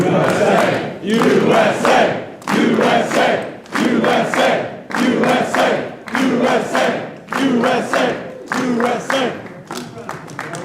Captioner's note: audience chants "USA"